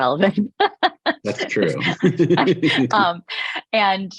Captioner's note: laughs; chuckles